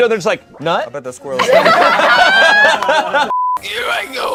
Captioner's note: group laughs